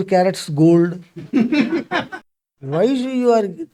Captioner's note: laughs